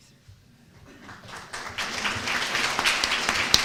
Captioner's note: applause